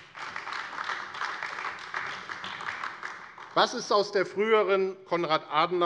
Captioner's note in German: Beifall AfD